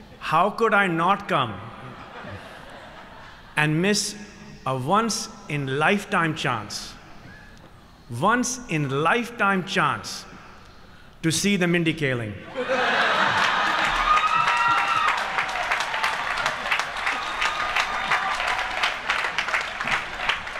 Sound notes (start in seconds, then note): 12.5 laughter and applause